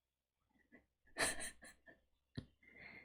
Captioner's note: laughs